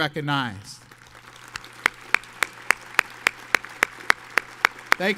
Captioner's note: audience applauds